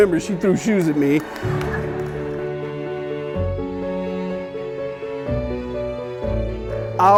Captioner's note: light inspirational music; laughing